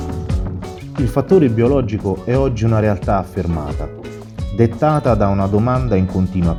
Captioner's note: voice-over